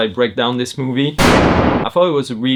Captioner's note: gunshot